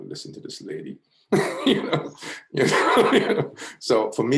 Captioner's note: laughs